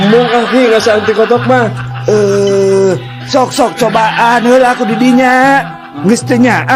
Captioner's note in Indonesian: tertawa